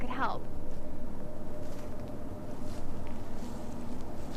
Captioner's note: rustling